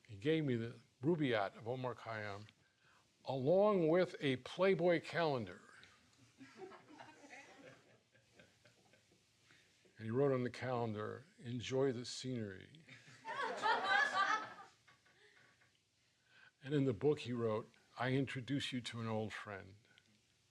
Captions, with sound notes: He gave me "The Rubaiyat of Omar Khayyam" along with a Playboy calendar. [laughing] And he wrote on the calendar, "Enjoy the scenery." [laughing] And in the book he wrote, "I introduce you to an old friend."